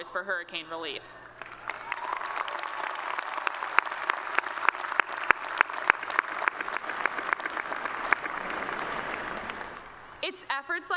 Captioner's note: applause